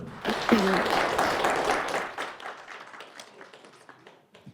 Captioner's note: applause